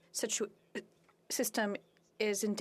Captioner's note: speaking French